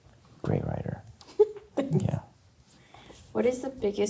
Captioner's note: chuckling